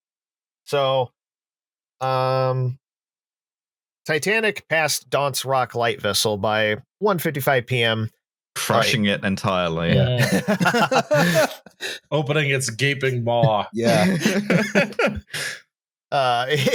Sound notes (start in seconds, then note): 10.1 laughter; 13.5 laughs; 16.5 laughing